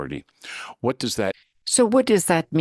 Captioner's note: speaking in French